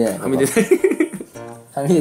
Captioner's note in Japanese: 笑い声